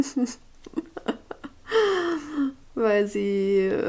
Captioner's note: crazy laugh